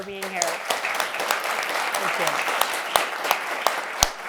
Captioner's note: applause